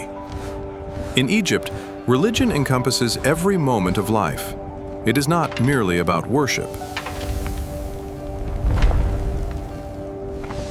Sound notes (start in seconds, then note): 8.4 footsteps thud